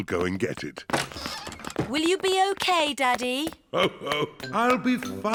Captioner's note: laughs